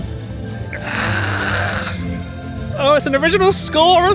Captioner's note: cheering